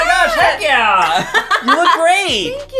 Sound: laughing

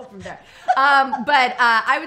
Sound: laughs

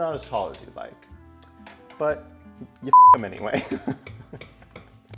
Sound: giggles

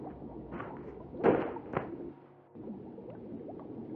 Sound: crash

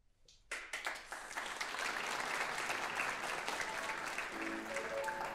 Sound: applause

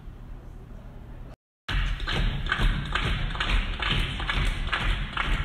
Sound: stomping and clapping

